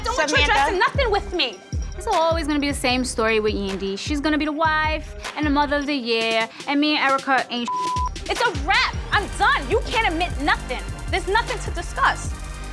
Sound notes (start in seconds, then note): 7.6 beep